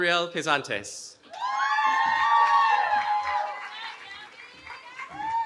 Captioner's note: cheering